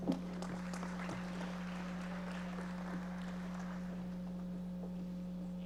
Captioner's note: audience applauding